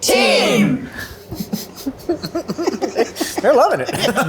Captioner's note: laughing